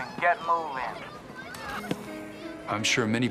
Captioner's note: children crying